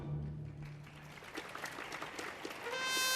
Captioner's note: audience applauding